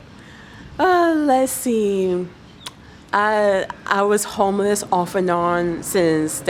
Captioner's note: sigh